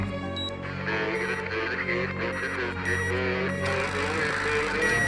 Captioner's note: radio garble